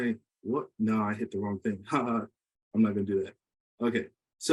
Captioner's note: laughs